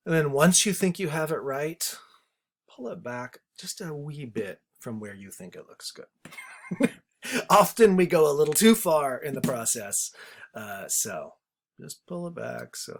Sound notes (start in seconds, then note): 7.0 laughs